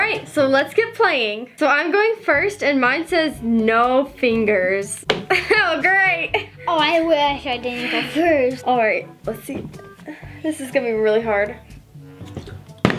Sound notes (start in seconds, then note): 6.0 laughing; 12.8 bottle landing